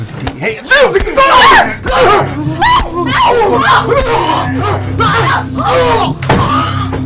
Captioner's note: Kristin screams; Kenneth groans; Kenneth gasping